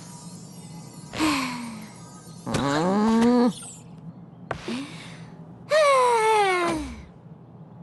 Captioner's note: sighs heavily, groans, sighs again